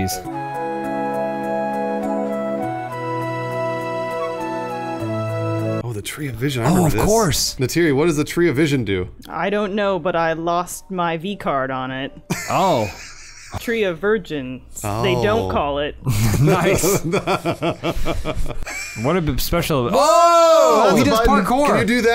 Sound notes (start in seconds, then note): 12.3 laughter; 16.0 laughter